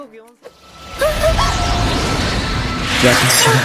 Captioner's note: wind swirling